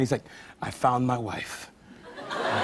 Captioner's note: laughter